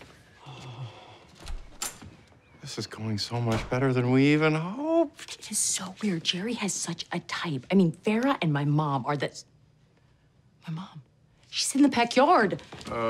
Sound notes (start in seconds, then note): 1.3 door opens; 4.4 door closes